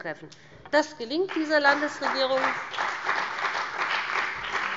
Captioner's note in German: Beifall bei dem BÜNDNIS 90/DIE GRÜNEN und der CDU